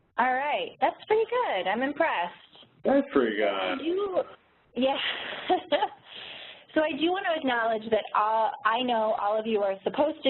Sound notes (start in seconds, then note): 5.0 laughs